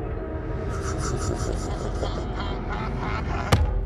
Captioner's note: demonic Laugh